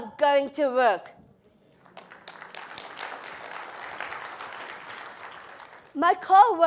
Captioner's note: applause